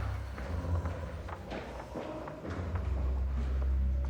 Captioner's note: ghostly groaning